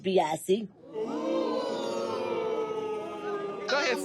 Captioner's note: audience exclaiming